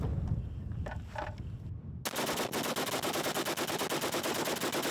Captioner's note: machine gun shots